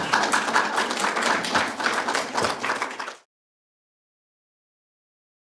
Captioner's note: applause